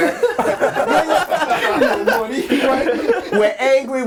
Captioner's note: overlapping chatter and laughter